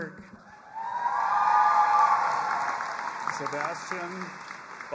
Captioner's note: audience applauding and cheering